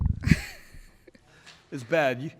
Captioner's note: laughs